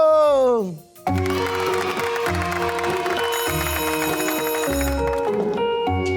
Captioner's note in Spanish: niños vitoreando; música suave